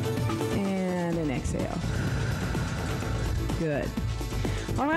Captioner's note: breath hisses